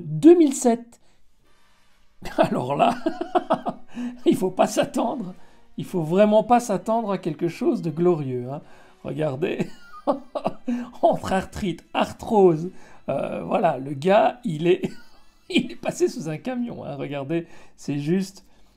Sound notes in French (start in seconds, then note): 2.3 hahahahahah; 9.6 hahahahhah